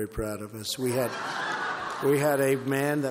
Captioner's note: laughter